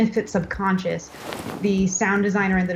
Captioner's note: cloth rustling